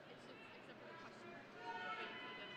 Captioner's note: none